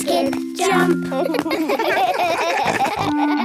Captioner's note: laughing